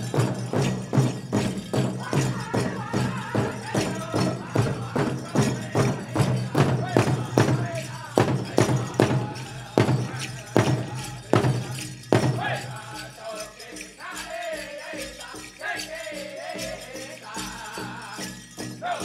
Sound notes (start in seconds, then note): 13.4 drum beating gently; 13.4 regalia ornaments jingling